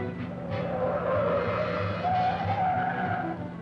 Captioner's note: tires squealing